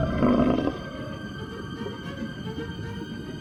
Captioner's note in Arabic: هدير المخلوق